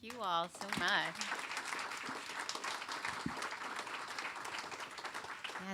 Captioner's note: applause